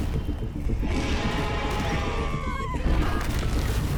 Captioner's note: dinosaur growling; dramatic music